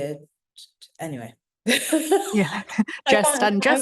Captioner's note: laughing